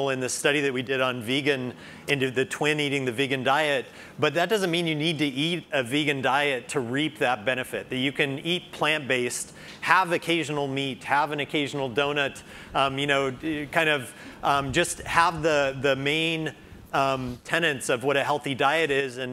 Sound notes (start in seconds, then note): none